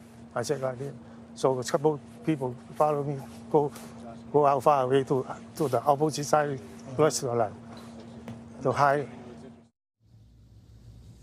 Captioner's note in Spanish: HABLAN EN INGLéS